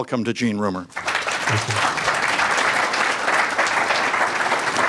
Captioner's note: audience claps